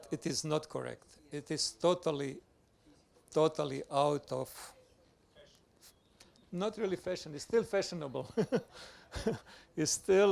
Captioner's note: laughs